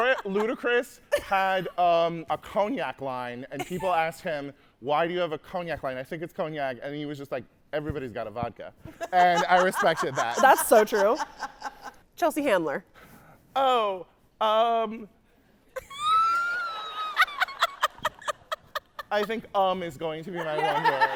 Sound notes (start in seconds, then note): 15.8 laughing; 16.1 audience laughing; 20.4 laughing; 20.4 audience laughing